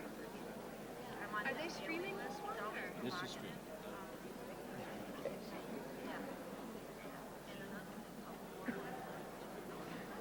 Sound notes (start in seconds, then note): 0.2 crowd murmuring; 6.0 overlapping chatter